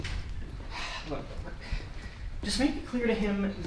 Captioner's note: sigh